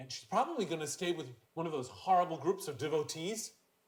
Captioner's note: none